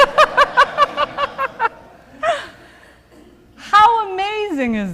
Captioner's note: laughter